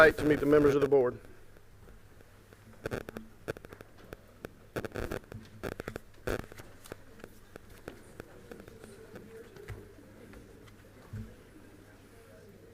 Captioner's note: group chatter